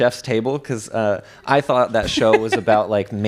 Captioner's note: laughs